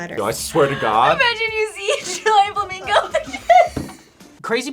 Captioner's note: laughs